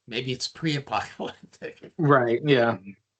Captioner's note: chuckling